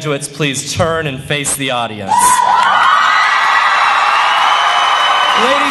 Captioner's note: cheering